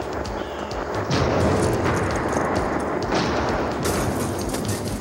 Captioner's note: explosion booming